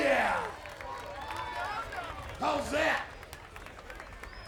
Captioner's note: applause